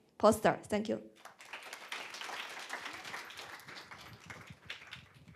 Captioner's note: applause